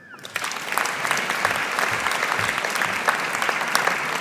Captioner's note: audience applauding